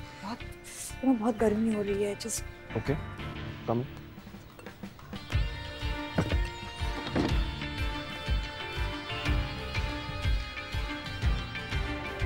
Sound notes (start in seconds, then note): 6.8 door closes